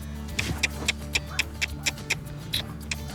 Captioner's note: clicking